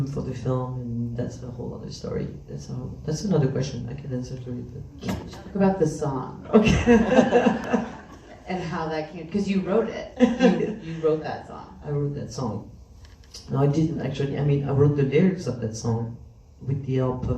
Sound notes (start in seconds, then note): 6.4 laughs